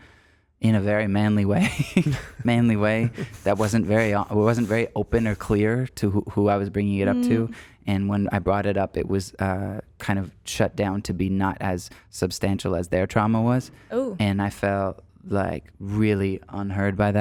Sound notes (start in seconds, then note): 1.5 chuckles